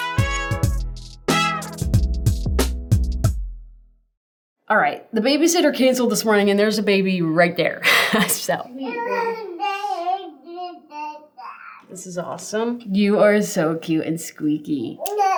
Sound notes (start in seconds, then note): 7.9 chuckles; 8.8 baby cooing and mumbling; 15.0 baby cooing